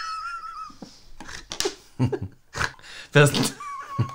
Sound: wheezing Laughter; snort

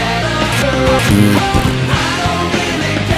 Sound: fart

